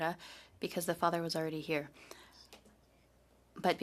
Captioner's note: speaking French